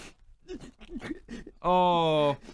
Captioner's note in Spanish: sollozos